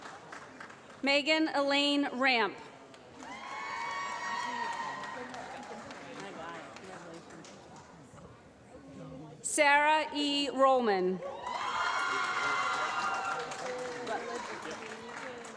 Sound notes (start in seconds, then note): 2.9 applause; 11.4 applause